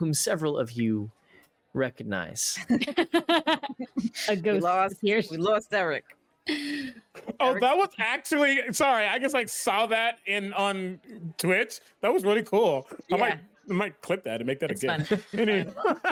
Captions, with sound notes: whom several of you recognize. (laughter) - We lost Eryk. - Oh that was actually, sorry, I guess I saw that on Twitch. That was really cool. - Yeah. - I might clip that and make that again. - It's fun.